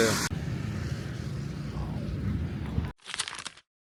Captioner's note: camera shutter